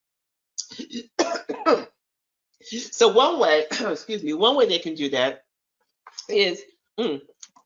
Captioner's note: coughs